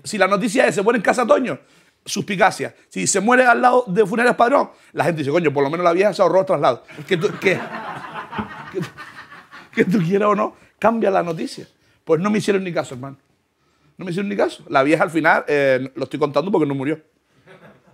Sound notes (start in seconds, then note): 8.7 laughter